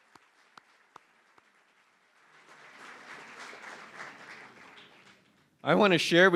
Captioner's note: applause